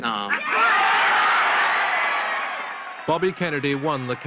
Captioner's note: applause